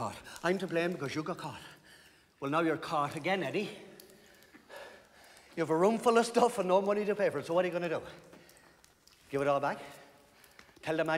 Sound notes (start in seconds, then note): none